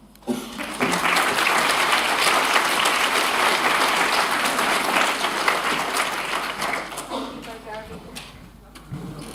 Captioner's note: applause